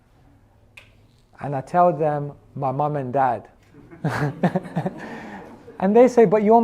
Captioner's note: laughs